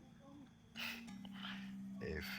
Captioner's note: chuckles